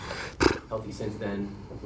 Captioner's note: Gary grunts